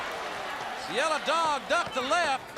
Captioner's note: crowd cheering